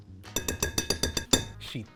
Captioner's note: tapping bowl